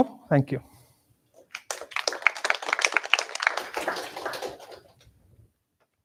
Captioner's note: applause